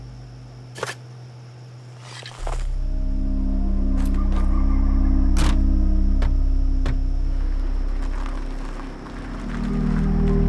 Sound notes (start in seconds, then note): 4.0 coyotes yipping; 4.7 coyotes howling